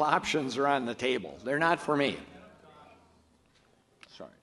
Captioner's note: audience murmurs